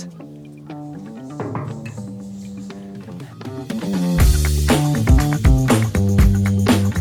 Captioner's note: door knocking